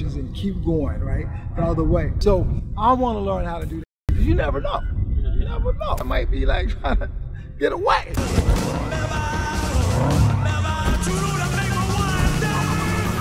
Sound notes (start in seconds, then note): 4.4 beep; 7.1 laughs; 10.0 car engine revving